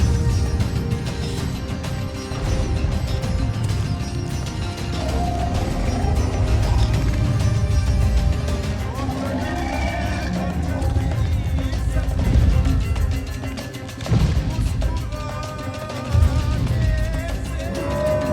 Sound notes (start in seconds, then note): 0.0 dramatic music; 5.0 animal roars; 14.0 footsteps rumbling